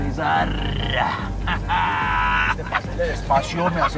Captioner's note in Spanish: Risas